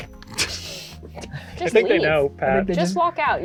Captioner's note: laugh